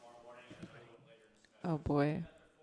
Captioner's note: speaks off microphone